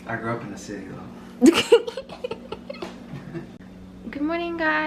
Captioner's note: laughs